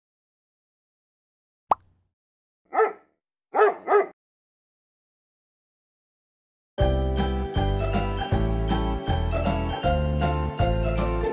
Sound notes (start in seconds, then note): 1.7 pop; 3.5 barking